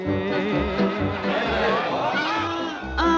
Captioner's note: uptempo rhythm plays; crowd hooting